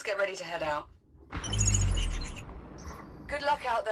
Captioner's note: excited beep